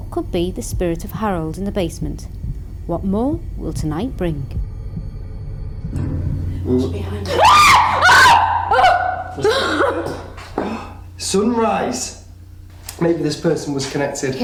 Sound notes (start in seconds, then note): 7.2 screams